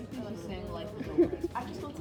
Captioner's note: laughs